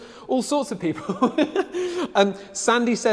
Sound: laughs loudly

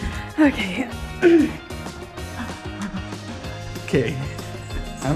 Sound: clears throat

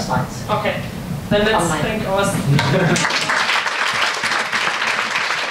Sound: audience applauds

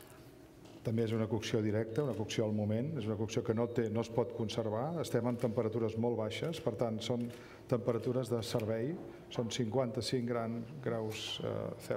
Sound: speaking catalan

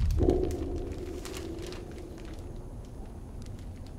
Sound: plastic moving, desert sounds

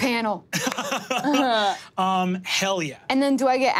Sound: laughing

